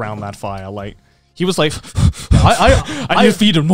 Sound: panting

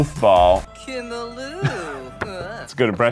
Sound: Avatar speaking Simlish; laughing

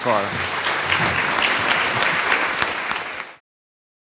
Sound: audience applauding

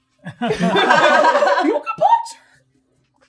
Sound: gamers laughing

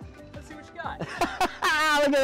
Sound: laughter

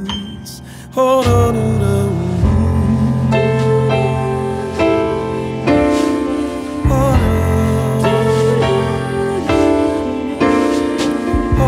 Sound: ad libs, humming

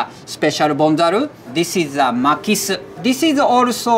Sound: text chiming

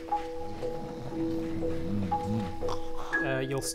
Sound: snores

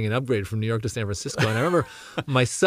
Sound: laugh

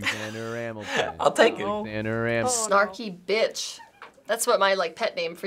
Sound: chuckles

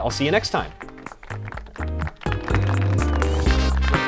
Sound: applause

